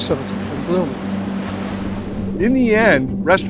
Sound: water burbling

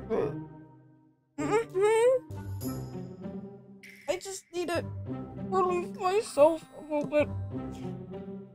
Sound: mouth full

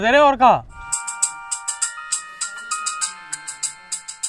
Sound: cellphone ringing

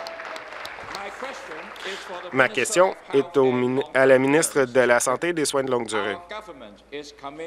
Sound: applause

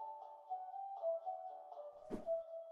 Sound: audible whoosh

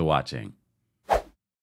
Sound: air whooshing

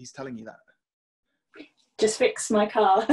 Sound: laughing

